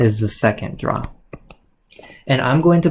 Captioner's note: keyboard clicks